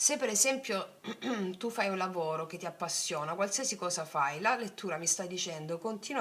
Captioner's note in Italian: schiarire la voce